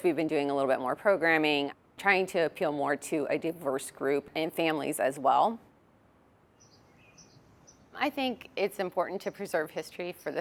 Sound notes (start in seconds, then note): 6.5 birds chirping